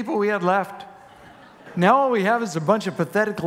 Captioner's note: congregation laughing